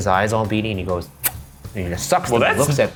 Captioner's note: sucking noises popping